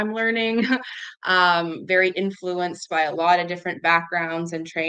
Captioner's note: laughs